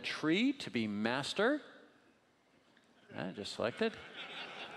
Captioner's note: laughing